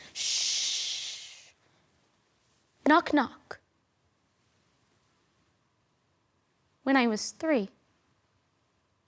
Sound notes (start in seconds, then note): 3.7 silent; 7.8 silent